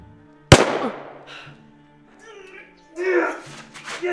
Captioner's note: Mabel gasps; gunshot blasting; gasps; Merriweather grunts